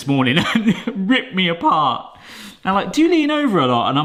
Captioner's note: chuckles painfully